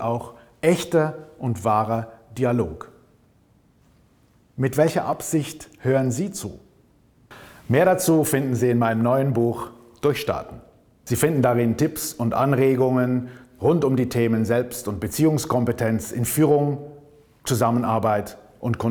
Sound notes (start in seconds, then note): 11.8 German